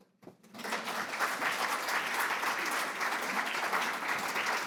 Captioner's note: audience applauds